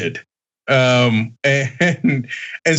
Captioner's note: laugh